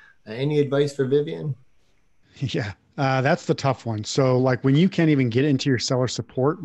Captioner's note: none